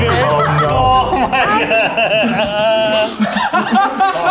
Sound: laughs

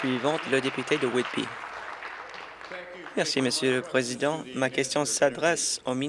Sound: applause

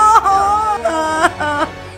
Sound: crying

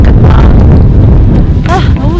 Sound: loud wind noise

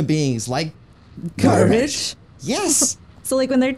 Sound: everyone in unison

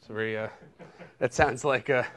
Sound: laughter

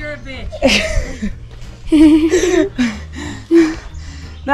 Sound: laughing

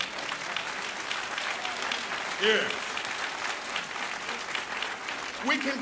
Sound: applause

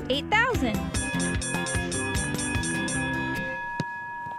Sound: dinging bell

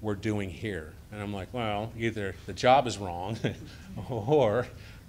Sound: chuckles

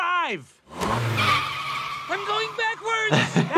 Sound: tires screeching

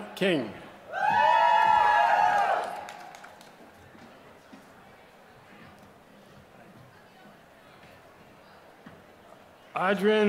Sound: applause

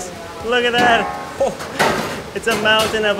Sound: laughs

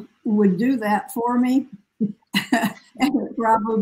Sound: laughs

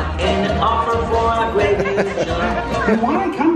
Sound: laughs

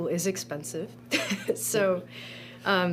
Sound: chuckles

